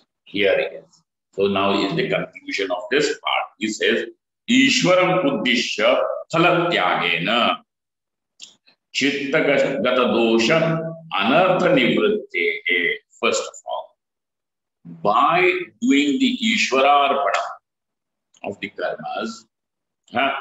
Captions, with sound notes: here it is so now in the conclusion of this part he says (sanskrit)